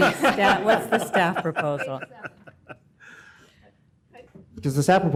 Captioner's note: laughter